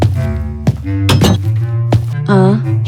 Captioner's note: footsteps; door closes